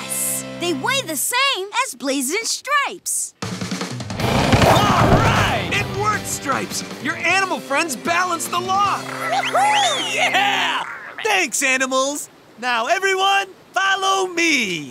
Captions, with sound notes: They weigh the same as Blaze and Stripes! All right, it worked Stripes, your animal friends balanced the log. [cheering] Thanks animals. Now everyone, follow me.